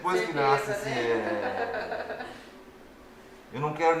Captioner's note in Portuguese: risos